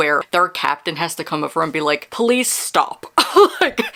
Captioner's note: laughs